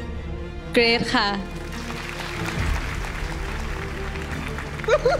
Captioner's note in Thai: ปรบมือ